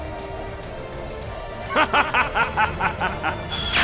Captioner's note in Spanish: Risas